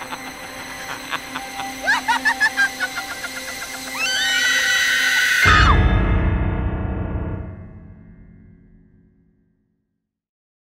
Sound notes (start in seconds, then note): 1.8 sinister laughter; 3.9 screams